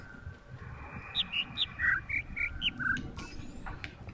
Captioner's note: overlapping birds chirping, ˥ ˧ ˥ ˩